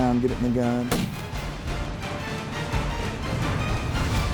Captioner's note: gun fires